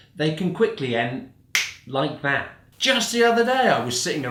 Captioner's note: snaps